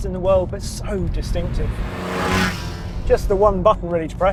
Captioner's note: car zooming